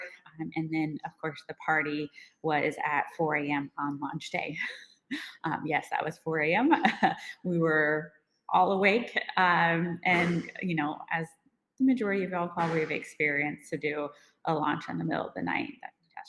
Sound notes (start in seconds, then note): 5.0 chuckles; 7.0 laughs